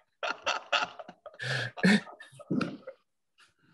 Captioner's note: laughing